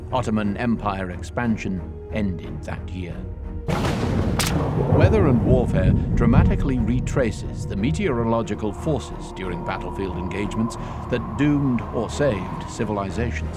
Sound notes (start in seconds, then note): 3.7 thunder roars